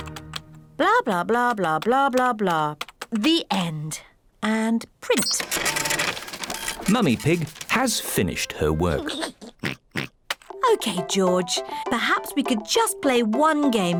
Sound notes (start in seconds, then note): 8.8 giggles and oinks